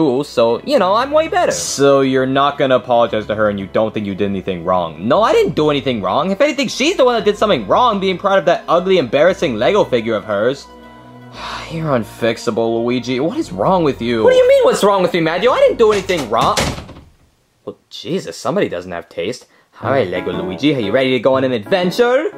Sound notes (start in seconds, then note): 11.3 sighs; 15.5 door slams; 22.1 bright music